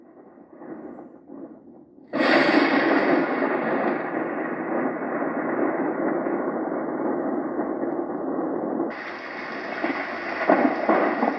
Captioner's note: various rain sounds with and without thunder